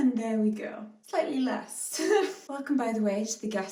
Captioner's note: laughs